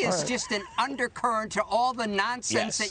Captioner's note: laughter